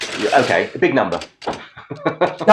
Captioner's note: chuckling